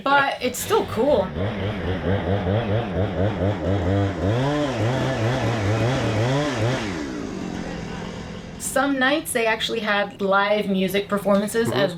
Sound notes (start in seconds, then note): 0.7 chainsaw noise